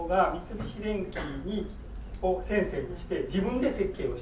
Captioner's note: coughing